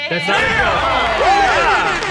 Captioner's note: group cheering and applauding